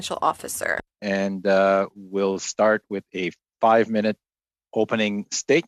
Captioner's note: speaking French